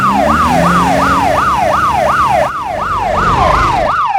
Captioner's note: siren